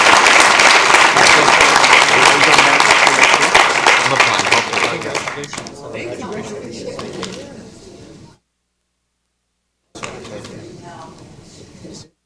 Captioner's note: applause